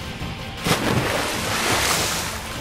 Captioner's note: Water splashing